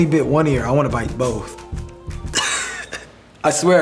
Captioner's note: laughs